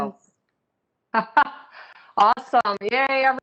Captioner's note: laughs